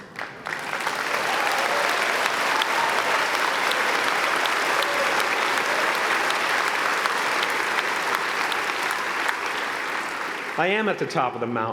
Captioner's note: applause